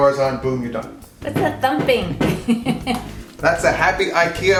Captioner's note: laughing